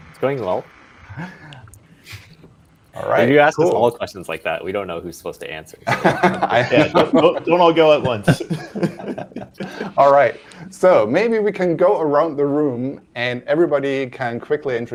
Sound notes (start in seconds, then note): 5.8 laughter